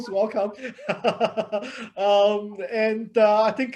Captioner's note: laughing